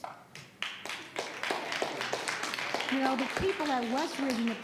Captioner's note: audience applauds